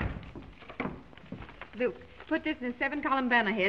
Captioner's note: door thuds